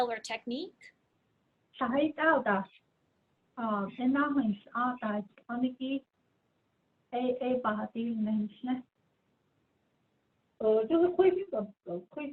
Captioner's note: speaking in Diné